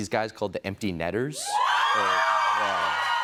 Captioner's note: cheers and applause